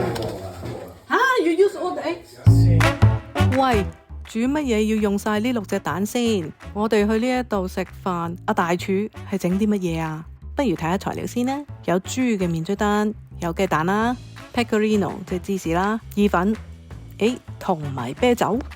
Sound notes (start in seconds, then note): 2.5 Italian